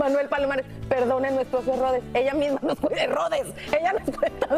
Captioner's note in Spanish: risas